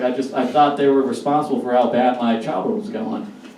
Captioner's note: none